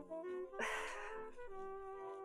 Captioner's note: sighs